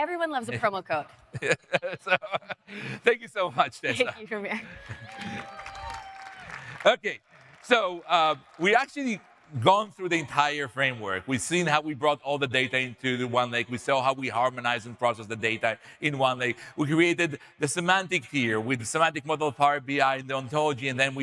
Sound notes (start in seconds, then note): 1.3 laughs; 4.5 audience cheering; 4.6 audience applauding